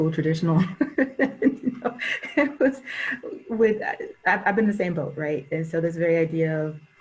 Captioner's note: laughs